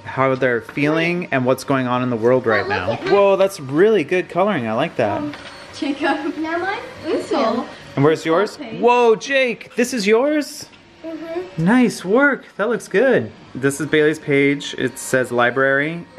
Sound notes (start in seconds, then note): 5.3 mumbles